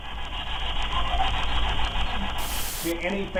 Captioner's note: faint Voice